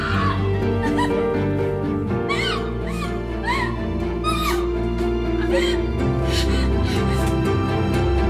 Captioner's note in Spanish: Sollozos